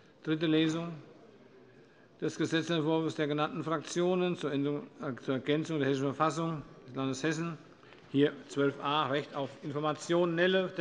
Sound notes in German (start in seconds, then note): none